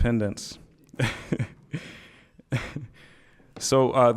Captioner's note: laughing